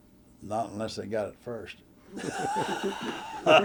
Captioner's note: laughter